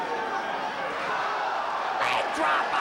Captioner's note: spectators exclaiming